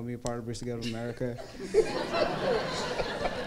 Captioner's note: crowd laughs